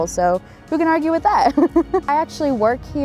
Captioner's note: laughter